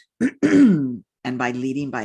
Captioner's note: clears throat